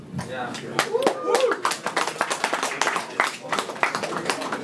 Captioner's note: audience clapping